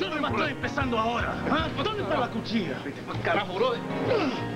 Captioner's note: arguing in spanish